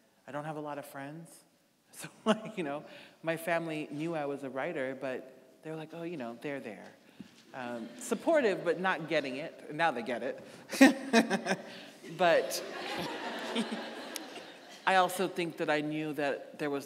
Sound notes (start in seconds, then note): 7.6 audience laughing; 10.7 laughing; 12.0 audience laughing